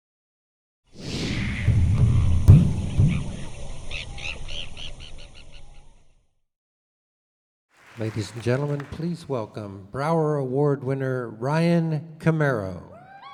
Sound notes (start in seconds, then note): 3.0 bird tweeting